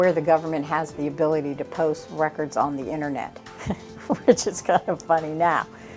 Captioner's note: chuckles